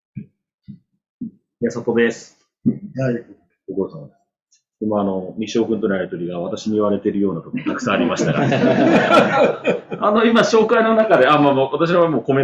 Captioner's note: laughs